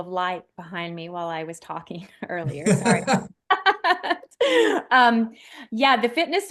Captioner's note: laughing